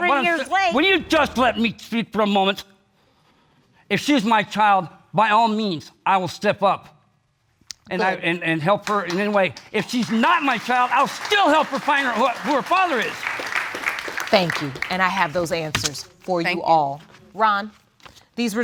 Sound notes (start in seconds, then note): 13.5 audience claps